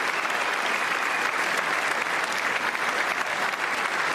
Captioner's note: applause